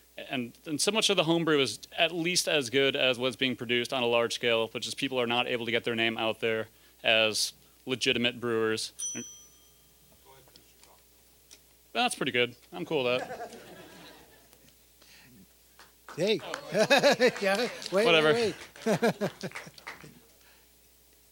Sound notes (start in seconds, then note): 8.9 bell dinging; 13.1 audience laughing; 16.0 applause